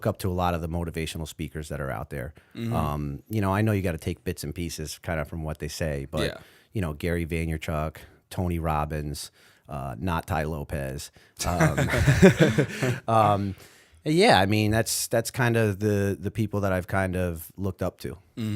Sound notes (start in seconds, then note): 11.5 laughter